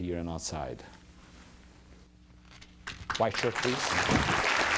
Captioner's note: applause